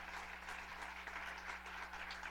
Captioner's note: applause